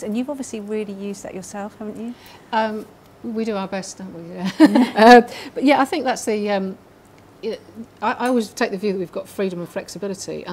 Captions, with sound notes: And you've obviously really used that yourself, haven't you? - We do our best, don't we (laughing)? But yeah, I think that's the... I always that the view that we've got freedom of flexibility,